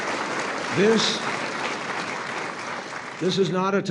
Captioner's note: applause